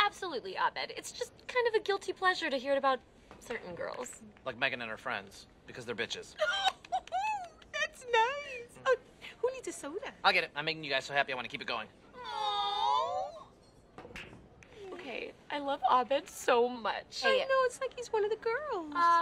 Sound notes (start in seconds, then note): 6.4 girls laugh; 12.1 girls awwww